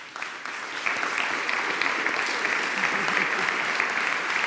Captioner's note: applause